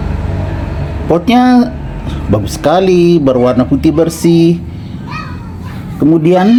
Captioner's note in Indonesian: berteriak